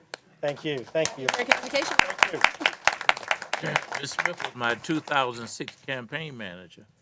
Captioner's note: applause